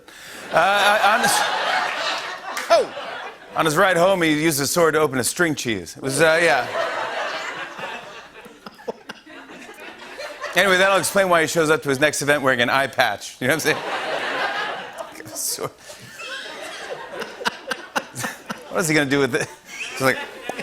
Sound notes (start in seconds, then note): 0.5 laughter; 6.5 laughter; 13.7 laughter